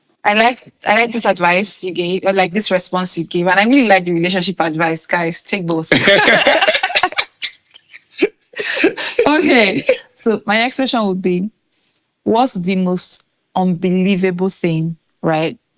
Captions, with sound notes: I like this advice you gave, like this response you gave, and I really like the relationship advice, guys, take both. [laughing] Okay. So my next question would be, what's the most unbelievable thing, right?